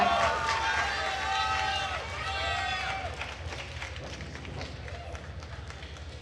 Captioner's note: attendees cheering and applauding